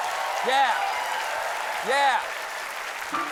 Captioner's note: applause